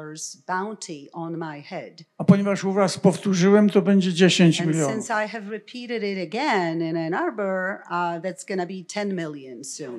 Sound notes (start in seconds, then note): 2.1 foreign language